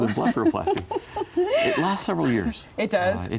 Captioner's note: laughs